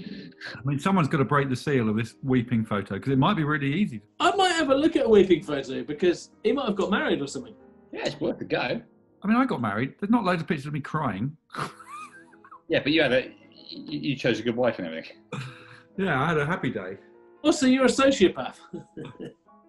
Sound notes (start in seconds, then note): 11.5 chuckling; 18.5 chuckling